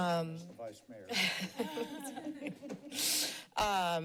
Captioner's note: laughs